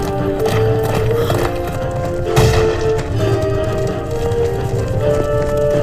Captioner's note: high-pitched Whinnying